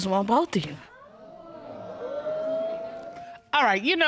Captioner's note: audience boos